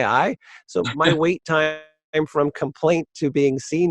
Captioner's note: microphone cuts out